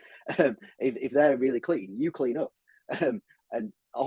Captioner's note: chuckles